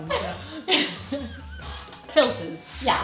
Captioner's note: both laughing